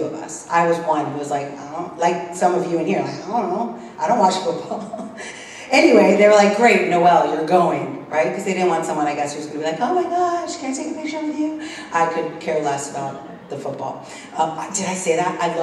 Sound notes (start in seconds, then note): 4.4 laugh